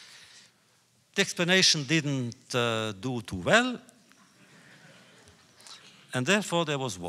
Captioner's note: laughter